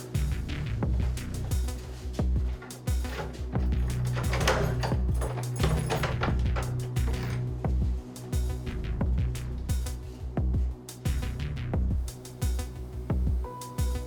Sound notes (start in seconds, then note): 3.0 opening door